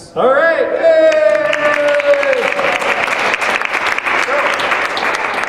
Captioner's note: applause